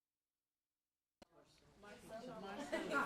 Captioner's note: classroom of students talking; laughter